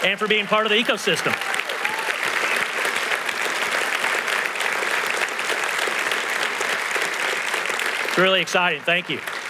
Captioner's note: applause